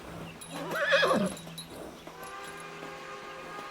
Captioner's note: horse whines; train whistles